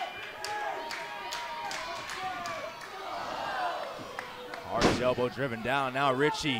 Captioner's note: crowd cheering